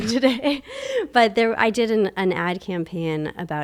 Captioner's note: laughs